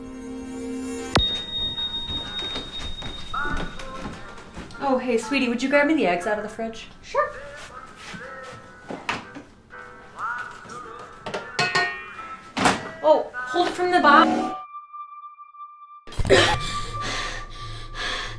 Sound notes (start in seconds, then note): 16.5 gasping for breath